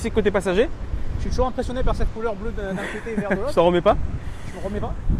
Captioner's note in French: rires